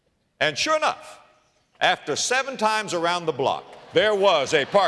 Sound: audience laughter

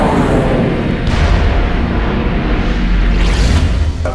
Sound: reverbed shotgun blast; quick punctuating woosh

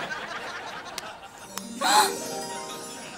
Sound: gasping

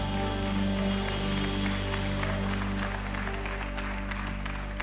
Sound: congregation applauds

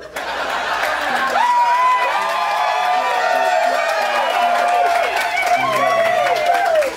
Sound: applause - Laughter - Cheering

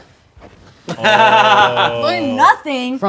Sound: laughing

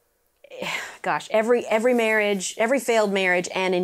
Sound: sighs

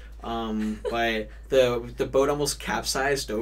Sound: laughs

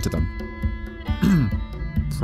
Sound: cough

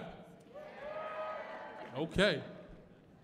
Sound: audience cheering

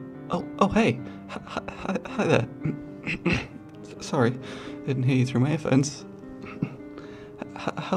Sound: clears throat

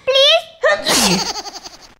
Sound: Meanwhile Rhythm Sneezed

